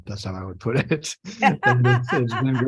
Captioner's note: laughter